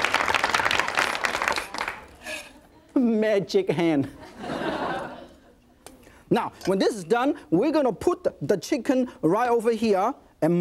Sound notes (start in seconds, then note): 4.1 audience laughing